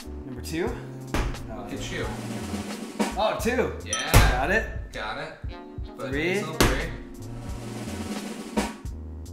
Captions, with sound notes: Number 2 *drum roll* Oh 2! *ding* got it Got it Three *drum roll*